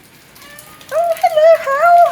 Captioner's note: meow